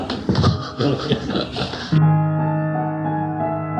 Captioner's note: laughter